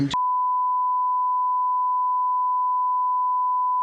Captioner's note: beep